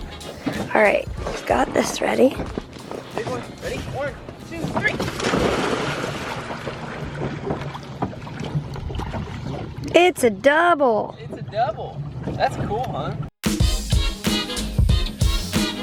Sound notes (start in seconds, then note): 0.0 singing; 5.2 water splashing